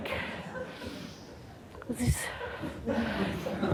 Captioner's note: audience laughs